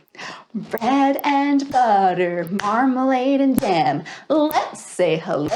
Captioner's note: chanting